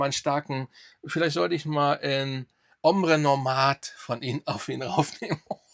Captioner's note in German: gelächter